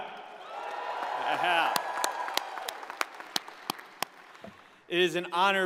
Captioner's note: audience cheers and applauds